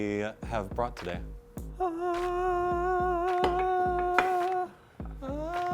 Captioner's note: mimics angel noise